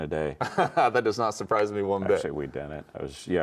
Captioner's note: chuckles